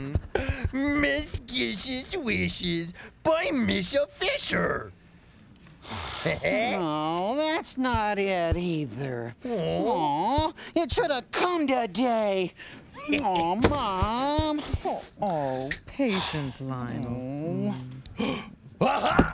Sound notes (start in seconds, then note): 5.8 sighs; 17.4 gasps